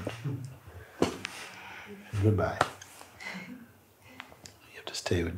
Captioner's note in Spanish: Mooji hace un ruido de caída cataplúm